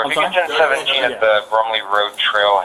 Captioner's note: radio chatter